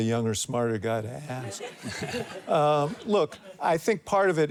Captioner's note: audience chuckles